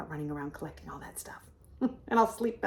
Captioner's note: laughs